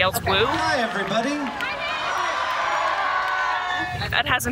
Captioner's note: all cheer